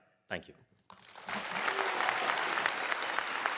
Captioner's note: applause